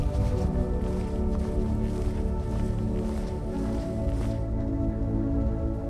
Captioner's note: wind blowing